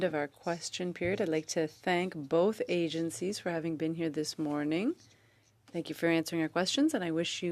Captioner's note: speaking French